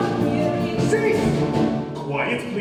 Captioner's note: shouted